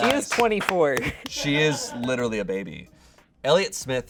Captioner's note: audience applauding; laughs